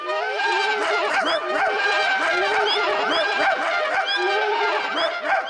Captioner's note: all shout and make noises; all giggle